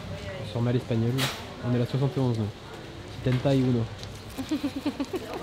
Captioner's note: laughs